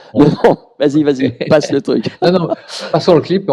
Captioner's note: laughs